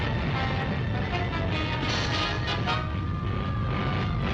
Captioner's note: boulders rumbling